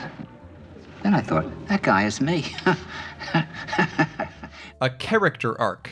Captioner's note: andre laughing